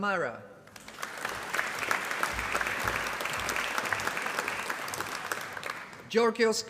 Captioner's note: applause